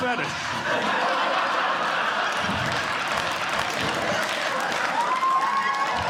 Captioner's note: audience Laughing; audience Clapping